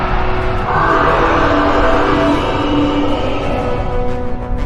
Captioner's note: dinosaur roaring